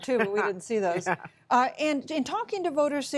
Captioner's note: laughter